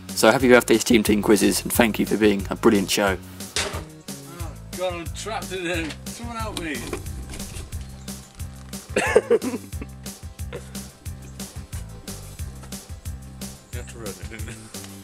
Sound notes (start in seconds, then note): 3.5 clanging from off camera; 8.8 laughs